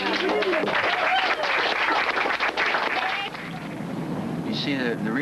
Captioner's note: crowd clapping